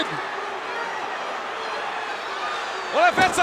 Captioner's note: crowd cheering